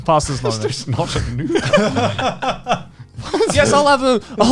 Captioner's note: all laughing